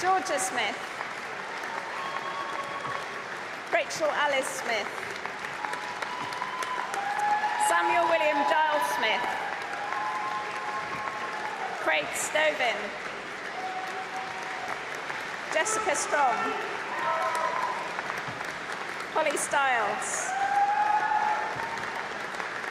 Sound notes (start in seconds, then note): 6.2 applause; 11.0 cheering; 13.9 applause